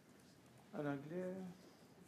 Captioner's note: speaking French